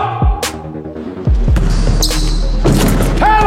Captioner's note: ball bouncing; dunk sound